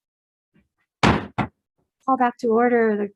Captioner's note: gavel banging